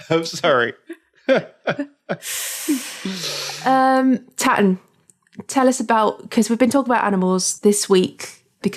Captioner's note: laughter